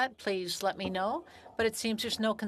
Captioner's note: speaking French